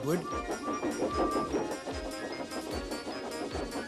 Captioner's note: toots